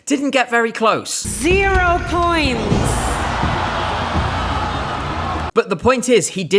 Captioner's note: audience gasps